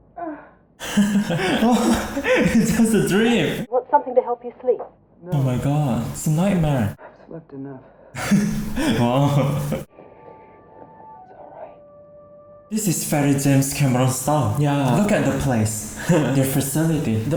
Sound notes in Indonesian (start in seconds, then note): 8.1 Menghela napas